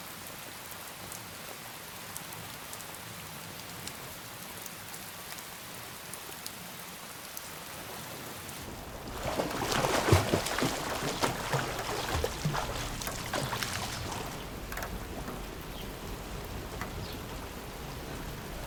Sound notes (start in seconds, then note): 9.9 water splashing